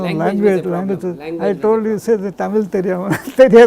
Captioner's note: in Tamil